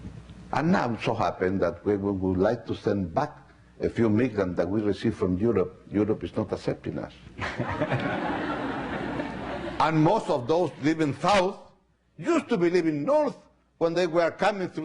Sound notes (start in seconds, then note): 7.4 laughing